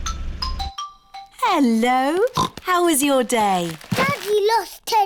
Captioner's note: oinks